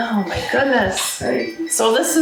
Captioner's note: phone rings